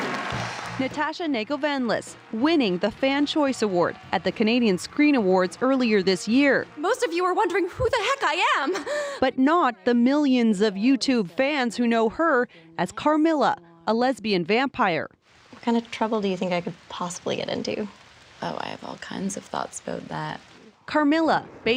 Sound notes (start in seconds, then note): 3.2 applause